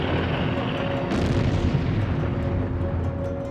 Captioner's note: explosion